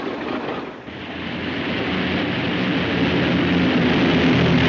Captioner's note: engines droning